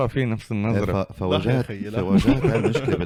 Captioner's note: laughs